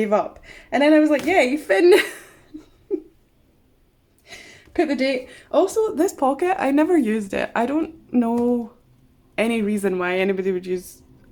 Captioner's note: laughs